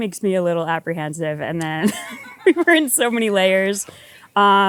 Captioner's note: laughs